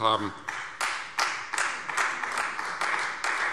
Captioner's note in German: Beifall Freie Demokraten